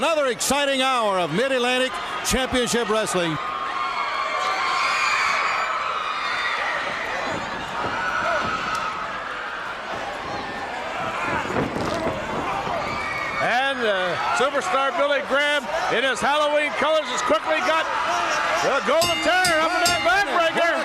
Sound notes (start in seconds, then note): 5.2 crowd cheering